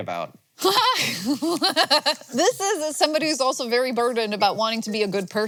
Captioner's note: laughs